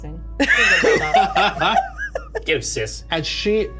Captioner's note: players chuckle